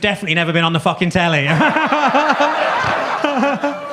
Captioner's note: audience laughs; laughs